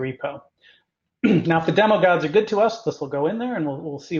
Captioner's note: cough